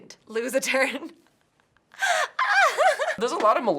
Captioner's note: laughs